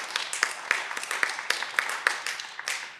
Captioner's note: cheering